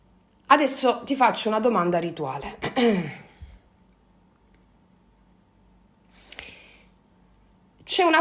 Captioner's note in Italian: schiarire la voce